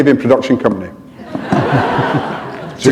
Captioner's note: laughter